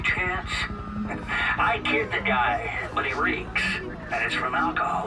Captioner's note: helicopter whirring